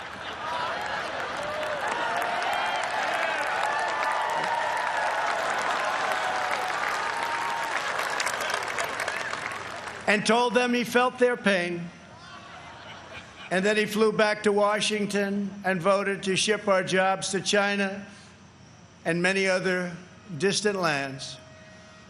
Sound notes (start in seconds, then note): 9.4 audience reacts